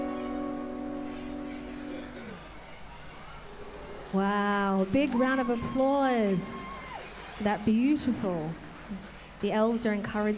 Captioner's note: applause